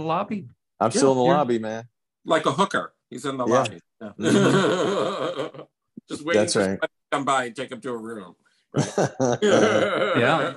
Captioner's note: laughs